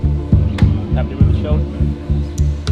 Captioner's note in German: Funkspruch: "Zufrieden mit der Show?"